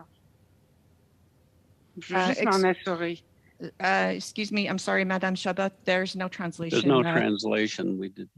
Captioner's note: speaking French